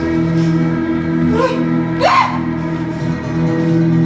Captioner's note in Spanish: Gritos